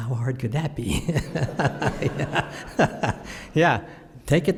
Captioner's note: laughter